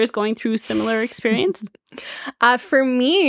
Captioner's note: chuckling